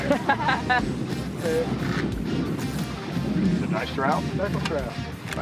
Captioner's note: woman laughing